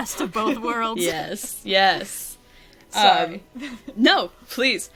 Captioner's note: laughs; laughs